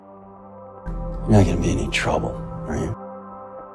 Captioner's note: voiceover